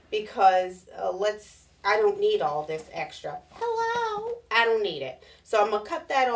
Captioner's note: none